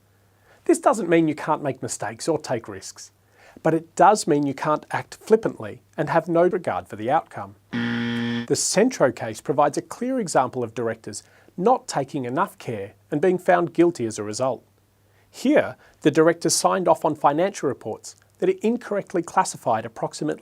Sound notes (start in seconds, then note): 7.7 buzzer sounds